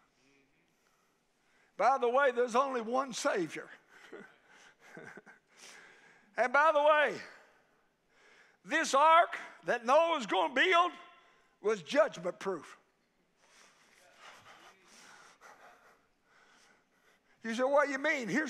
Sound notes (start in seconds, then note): 4.5 preacher laughing